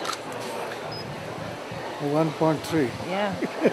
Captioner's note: laughs